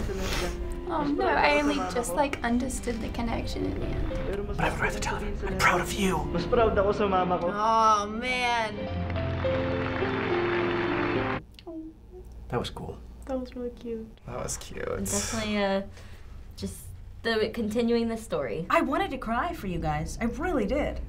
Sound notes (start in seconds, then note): 4.5 whispering; 9.1 applause; 11.7 quietly